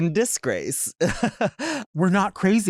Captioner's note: chuckles